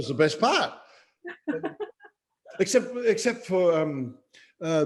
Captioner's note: laughing; laughs